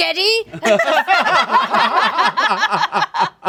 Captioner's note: laughing